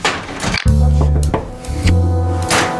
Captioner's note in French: toc toc toc